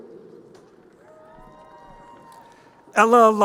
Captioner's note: crowd cheering